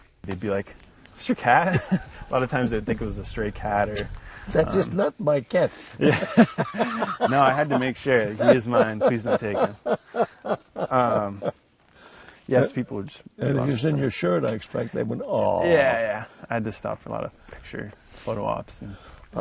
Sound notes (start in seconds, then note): 1.6 laughs; 5.9 laughs